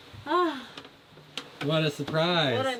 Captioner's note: sighs